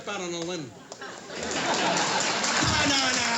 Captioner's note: applause